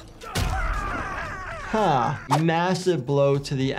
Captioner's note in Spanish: golpe de cuerpos; luchadores gruñendo; Joker gritando